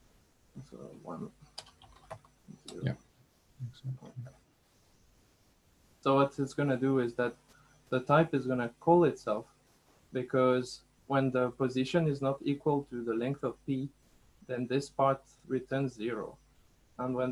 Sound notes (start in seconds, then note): 0.5 mumbling to himself